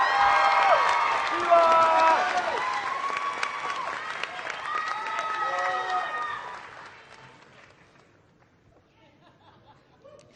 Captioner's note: applause